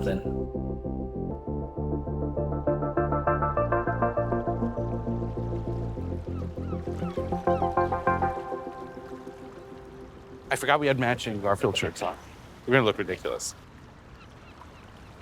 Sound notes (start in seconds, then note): 0.3 gentle music; 6.3 birds squawking